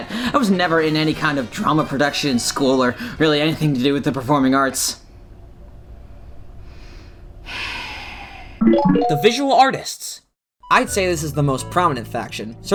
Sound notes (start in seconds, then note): 7.4 sigh